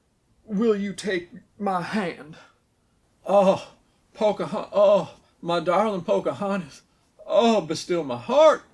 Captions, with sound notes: "Will you take... ...my hand?" (moaning) "Pocahon—oh!" "My darlin' Pocahontas!" "Oh, be still my heart!"